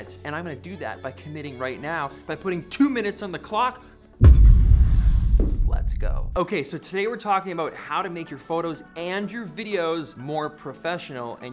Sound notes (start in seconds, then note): 4.2 echoing boom